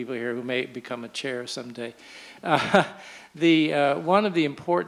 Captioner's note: chuckles